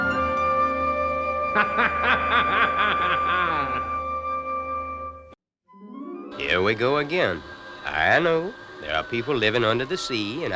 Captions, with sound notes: (wicked laughter) - Here we go again. I know there are people living under the sea